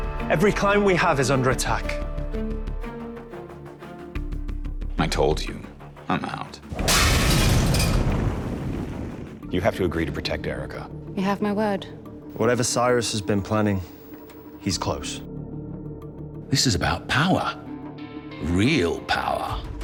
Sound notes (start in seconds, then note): 6.7 flask smashes, fire errupts